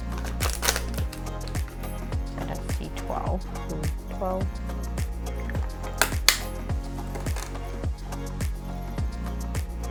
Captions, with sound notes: (clacking) So that's C12. B12. (clacking) (upbeat music)